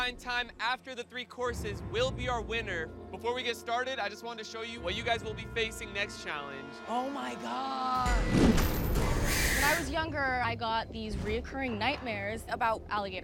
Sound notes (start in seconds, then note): 9.1 hissing